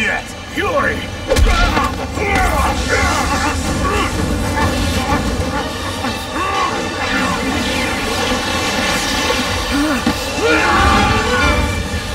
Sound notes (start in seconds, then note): 1.3 wincing; 2.9 fighting noises